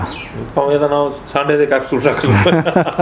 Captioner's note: both Laugh